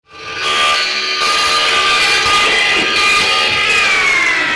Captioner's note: sound of a buzz saw